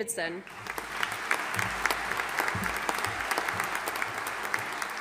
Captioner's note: audience applauding